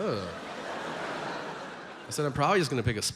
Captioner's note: audience laughs